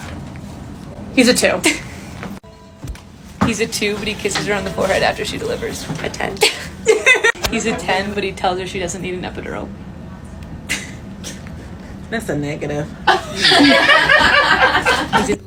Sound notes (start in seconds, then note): 6.4 laughs; 13.0 group laughing